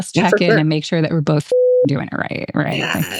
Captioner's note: beep